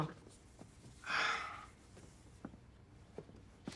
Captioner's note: Joe sighs